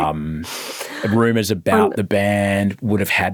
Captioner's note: laughing